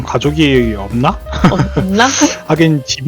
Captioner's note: laugh